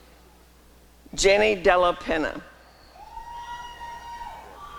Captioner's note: applause and cheering